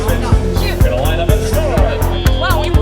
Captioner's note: whistle blows